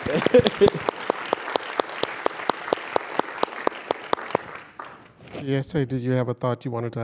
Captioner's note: applause